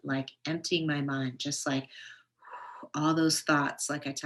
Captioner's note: exhales